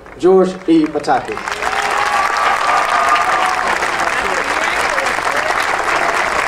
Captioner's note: audience cheering and applauding